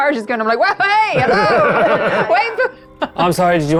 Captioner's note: chuckling